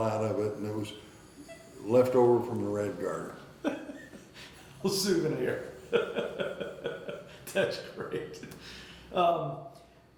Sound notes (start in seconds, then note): 3.7 interviewer laughing; 5.7 laughing